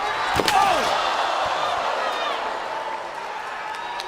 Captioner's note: crowd gasps